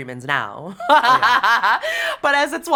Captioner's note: laughs